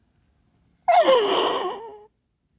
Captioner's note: sobs